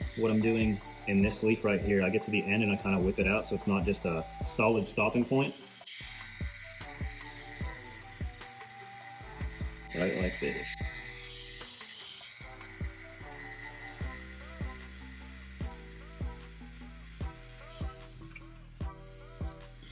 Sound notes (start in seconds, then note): 11.5 slow groovy music; 11.5 tattoo gun buzzing